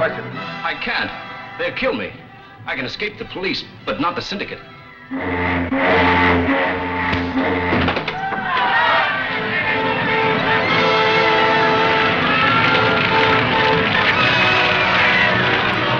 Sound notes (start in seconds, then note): 5.0 horn blaring; 8.1 dramatic music; 8.1 shouting